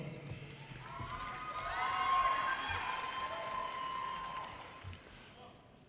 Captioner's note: audience cheers and applause